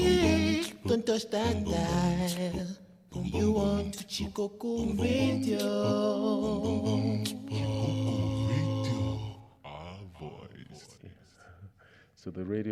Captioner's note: non-english speech